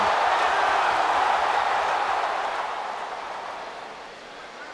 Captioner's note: crowd roaring